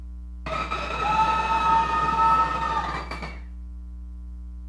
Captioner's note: audience cheering